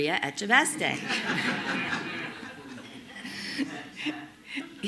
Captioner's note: all laughing